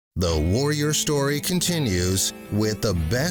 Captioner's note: voiceover